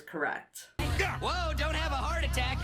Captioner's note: Ford shouts